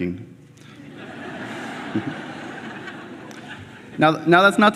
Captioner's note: laughter